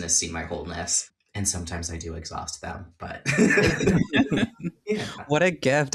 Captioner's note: laughs